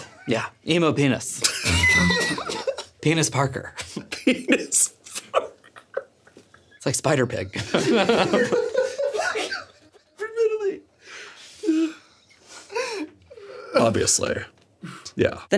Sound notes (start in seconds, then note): 1.4 everyone laughs; 3.8 laughs; 7.5 everyone laughs